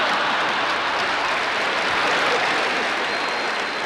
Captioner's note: audience laughter